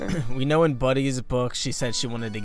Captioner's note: clears throat